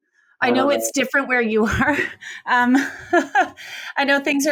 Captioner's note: laughs